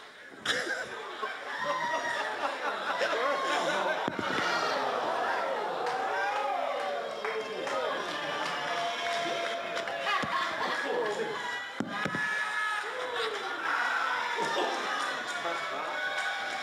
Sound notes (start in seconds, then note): 0.4 laughter; 3.9 spectators groan